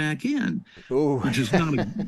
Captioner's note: chuckling